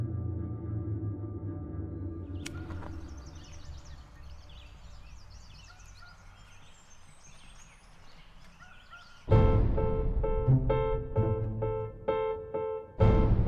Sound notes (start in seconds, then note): 2.3 birds tweeting; 9.3 tense uneasy music